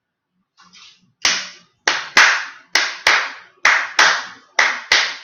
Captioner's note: claps short and long pattern